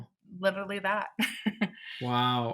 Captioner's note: chuckling